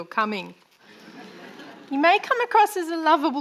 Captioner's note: audience laughing